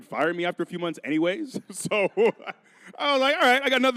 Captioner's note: chuckling